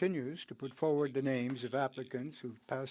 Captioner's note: speaking French